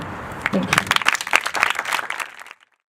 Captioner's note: applause